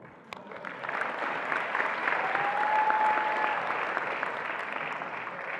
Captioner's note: attendees applauding and cheering